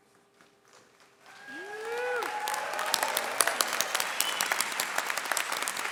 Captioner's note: audience cheering and clapping